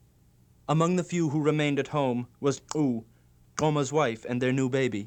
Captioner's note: non-english speech